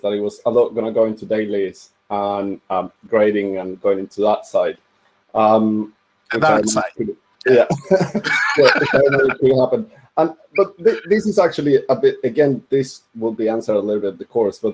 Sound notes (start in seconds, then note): 7.5 panelist laugh